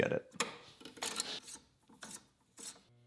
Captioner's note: metal clicks; metal scraping